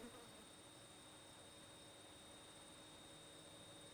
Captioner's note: high buzzing